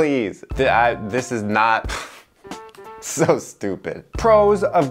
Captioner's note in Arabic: يضحك